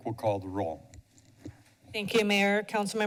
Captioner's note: mic noise